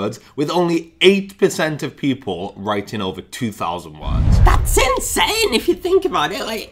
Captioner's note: none